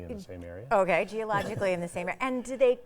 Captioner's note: chuckling